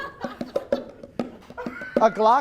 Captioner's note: an audience member wheezing